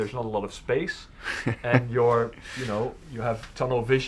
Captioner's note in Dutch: lacht